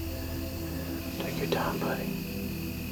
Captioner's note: whispering